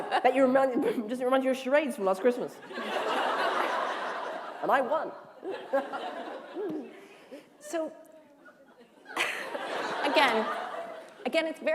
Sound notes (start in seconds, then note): 8.4 laughter